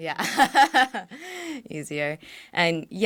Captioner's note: laughs